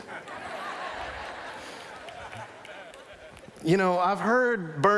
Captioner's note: laughter